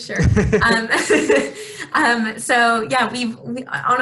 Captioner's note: both laughing